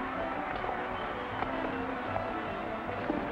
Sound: feet clack

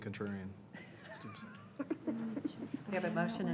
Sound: laughing

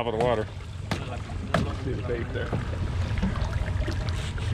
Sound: thunk, thunk

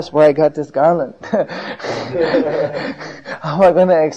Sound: laughs and devotees laugh along with him

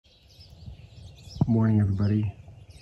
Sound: birds chirping

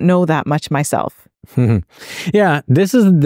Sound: chuckles

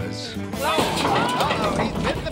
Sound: clattering

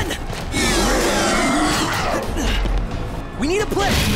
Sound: symbiotes roaring

